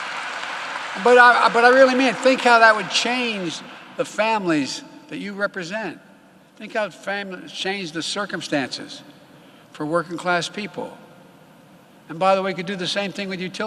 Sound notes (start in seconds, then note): 0.0 applause